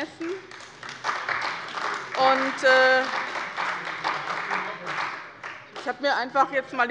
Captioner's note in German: Beifall bei dem BÜNDNIS 90/DIE GRÜNEN und der CDU